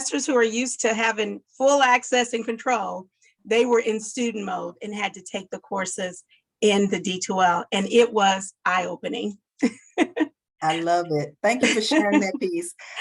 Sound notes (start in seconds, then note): 9.6 laughter